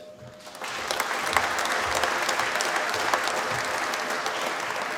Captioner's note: applause